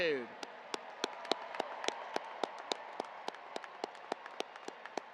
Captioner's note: audience applauding